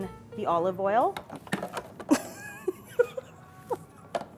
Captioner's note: laughing